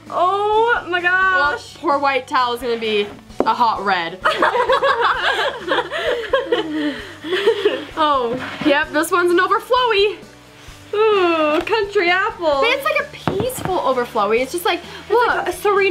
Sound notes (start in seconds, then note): 4.2 laughing